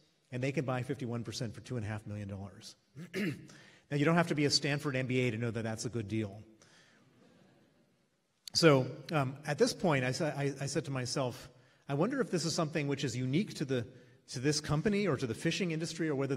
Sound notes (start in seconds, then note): 3.0 clears throat